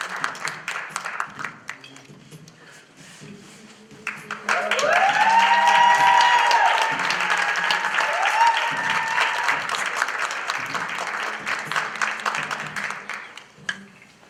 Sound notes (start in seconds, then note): 4.4 applause